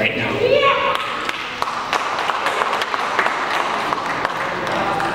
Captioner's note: audience applauds